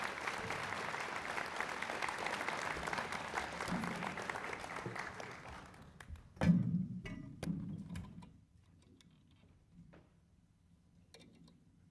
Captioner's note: applause